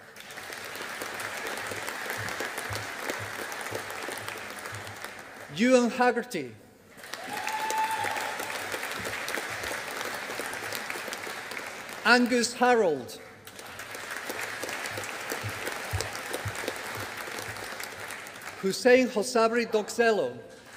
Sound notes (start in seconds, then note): 0.0 audience applauding; 6.9 audience applauding